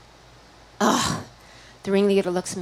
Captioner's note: grunts